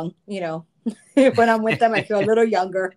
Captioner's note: laughing